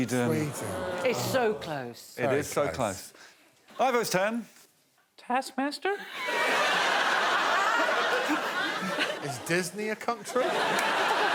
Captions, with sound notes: -Norwegian. -Sweden. -It's so close. -It is so close. -Ivo's turn. -[high pitched voice] Taskmaster.